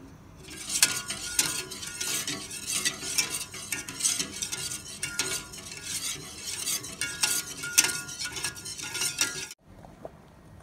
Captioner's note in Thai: เสียงตะกร้อคนส่วนผสมบนหม้อขณะตั้งไฟ